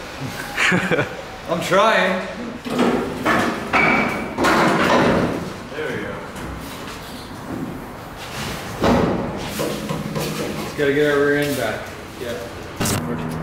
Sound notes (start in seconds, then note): 3.1 metal clanking